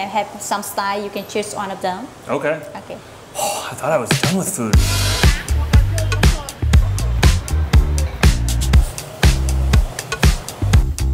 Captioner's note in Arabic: تنهدات